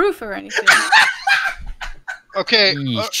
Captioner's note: laughs